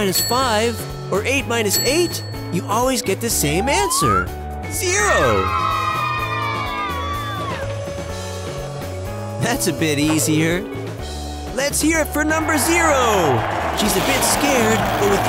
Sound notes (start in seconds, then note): 5.0 children cheer